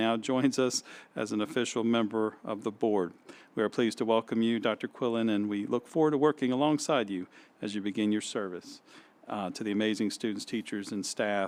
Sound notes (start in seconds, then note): none